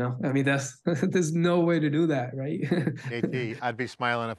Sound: laughing

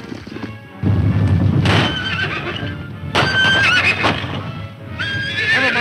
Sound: running hoof beats; fast hoof beats; gunshot; horses neigh; gunshots

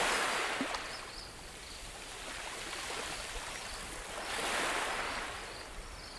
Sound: waves crashing

